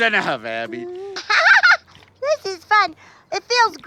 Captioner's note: laughs